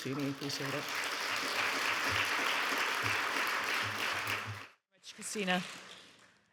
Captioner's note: audience applauding